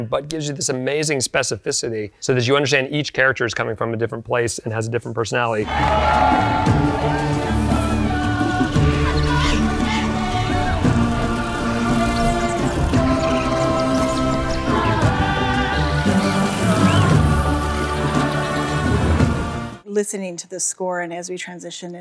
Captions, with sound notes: but gives you this amazing specificity, so that you understand each character's coming from a different place and has a different personality. [choral music] [crowd cheering] [animals squeaking] [birds chirping] [magic swooshing] - Listening to the score, and as we transition